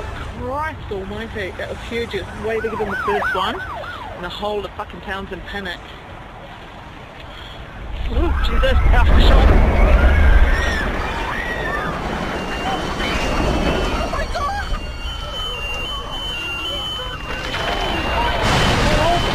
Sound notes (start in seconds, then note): 5.9 rumbling noise, screaming, alarm ringing, ambulance sirens